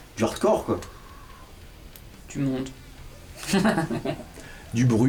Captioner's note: laughs